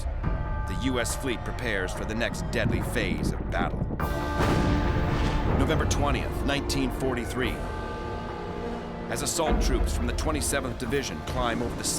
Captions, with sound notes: the US fleet prepares for the next deadly phase of battle. [gunfire] November 20, 1943. As assault troops from the 27th Division climb over the sides